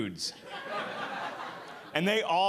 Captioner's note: audience laughing